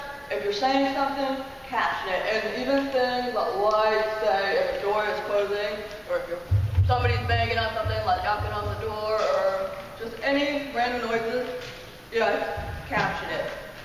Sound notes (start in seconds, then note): 6.5 soft booming